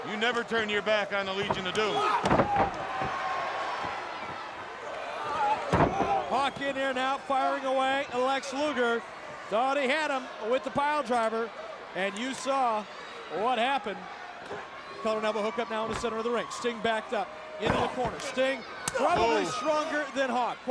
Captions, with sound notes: You never turn your back on the Legion of Doom. (body slamming) (crowd cheering) Hawk in there now, firing away at Lex Luger. Thought he had him with the pile driver and you saw what happened. Hookup now in the center of the ring. Sting backed up into the corner. Sting probably stronger than Hawk.